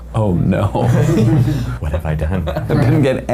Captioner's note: all laughing